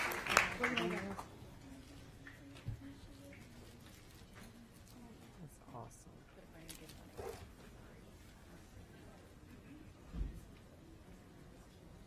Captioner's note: applause